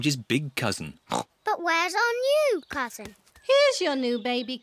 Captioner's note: oinks